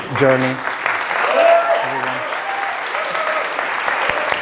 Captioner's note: audience applauds